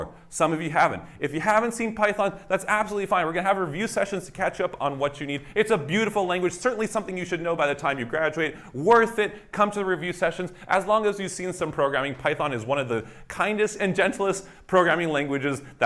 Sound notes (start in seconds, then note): none